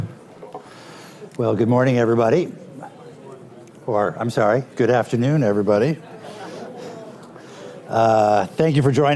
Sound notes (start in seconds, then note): 7.5 laughter